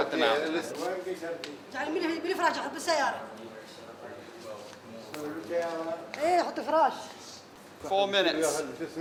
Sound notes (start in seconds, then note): 1.3 woman speaking in Arabic